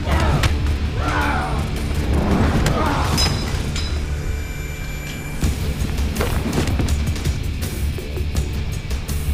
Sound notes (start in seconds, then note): 2.0 whooshing; 3.1 metal clinking